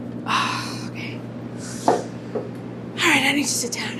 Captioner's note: sighs